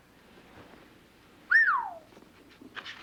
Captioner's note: whistles